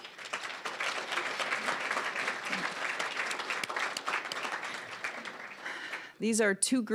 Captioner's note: applause